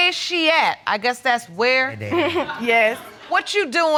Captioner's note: chuckles